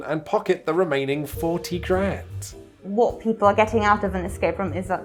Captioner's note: none